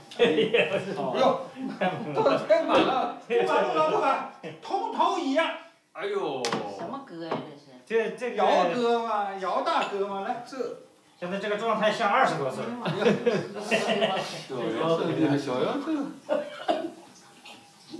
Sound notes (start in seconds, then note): 0.2 man laughs; 9.7 cups clanging; 11.6 men speak in Chinese language